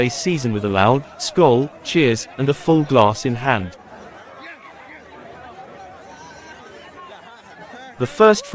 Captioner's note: cheers